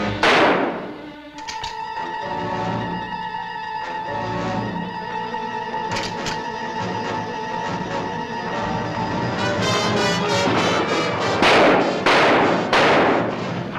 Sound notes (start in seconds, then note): 0.1 gunshot; 1.3 click; 2.8 tense music; 5.9 click; 9.9 gunshots